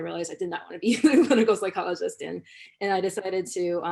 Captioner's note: laughter